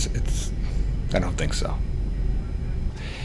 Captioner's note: none